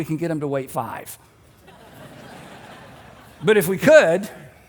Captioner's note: congregation laughs